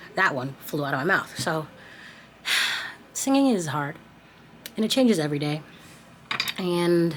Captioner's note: sighs